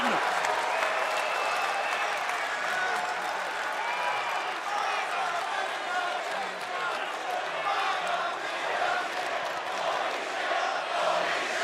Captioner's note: crowd cheering